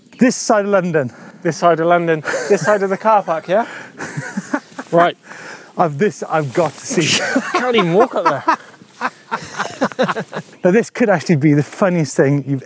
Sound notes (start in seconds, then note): 2.2 laughs; 9.0 laughs loudly